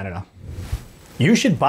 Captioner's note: air whooshes